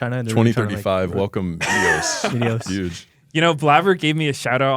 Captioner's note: laughs